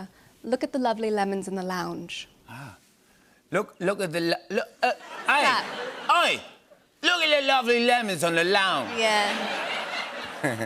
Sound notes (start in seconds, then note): 3.3 British accent; 4.9 laughter; 8.8 laughter